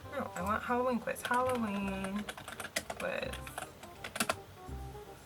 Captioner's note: typing